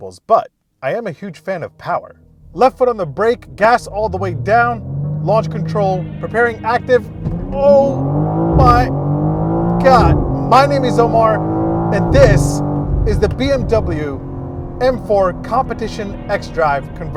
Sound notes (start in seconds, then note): 4.8 engine revving; 6.9 engine roaring; 8.8 engine roaring